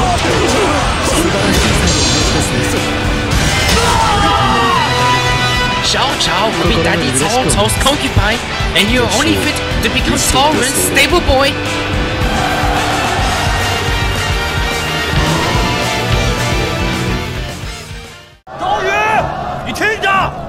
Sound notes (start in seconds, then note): 3.6 KO Scream